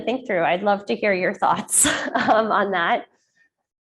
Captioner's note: chuckles